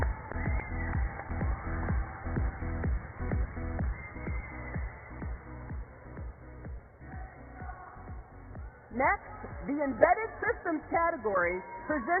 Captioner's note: applause